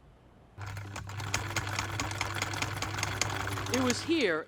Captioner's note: sewing machine hums